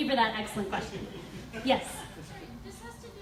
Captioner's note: audience laughs